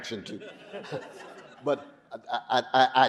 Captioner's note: audience laughing